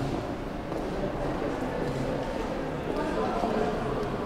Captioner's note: people talking